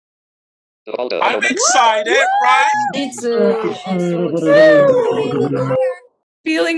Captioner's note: woop-wooping